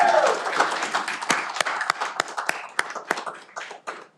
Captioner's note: cheering